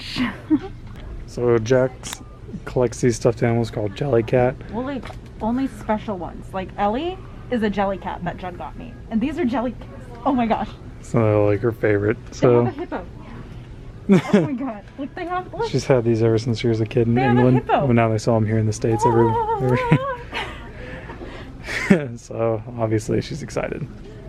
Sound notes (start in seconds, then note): 14.1 laughs; 21.7 chuckles